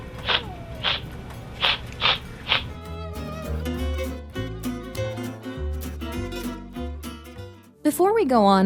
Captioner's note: hissing; meowing